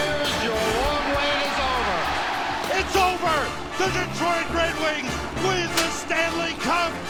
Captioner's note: crowd cheers